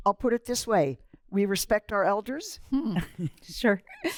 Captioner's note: laughter